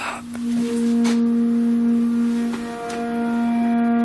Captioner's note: horn blowing